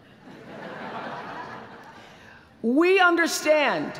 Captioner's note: laughter